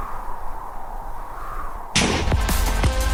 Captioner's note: wind Howls